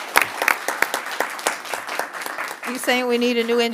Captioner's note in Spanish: aplausos